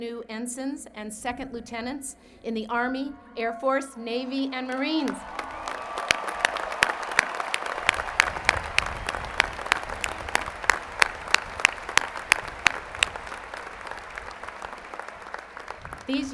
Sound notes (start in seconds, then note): 10.7 applause